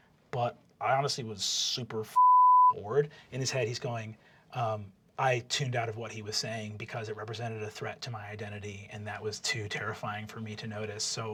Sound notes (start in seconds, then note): 3.4 normal voice